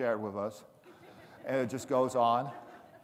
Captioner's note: audience laughing